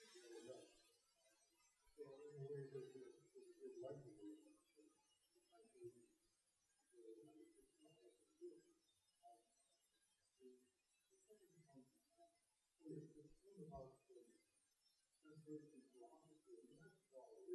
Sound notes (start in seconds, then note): none